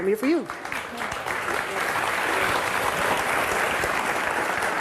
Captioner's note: audience applauding